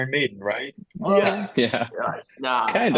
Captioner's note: laughing